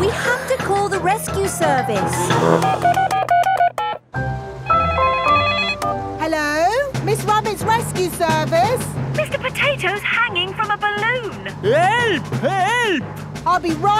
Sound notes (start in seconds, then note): 2.2 beeping; 4.7 phone ringing